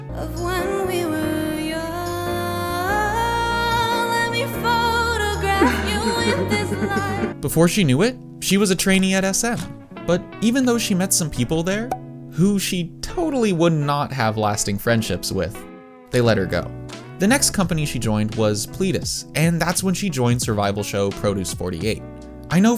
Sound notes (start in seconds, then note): 5.5 Ganondorf sobs uncontrollably